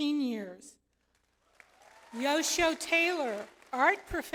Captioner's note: audience applauds